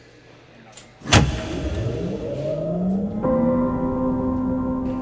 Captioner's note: power zapping